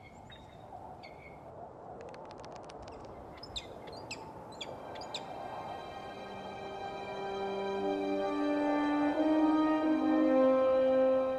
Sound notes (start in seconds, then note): 0.1 birds chirping; 3.0 serene music; 4.2 wind whooshing